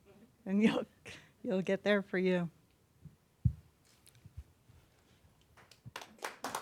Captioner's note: applause